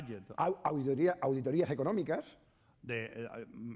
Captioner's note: speaking spanish